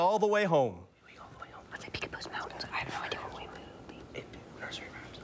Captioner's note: all whispering